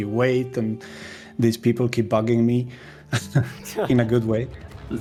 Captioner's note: laughs; chuckles